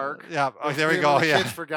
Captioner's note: laughs